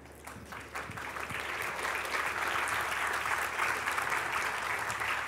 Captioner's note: Applaus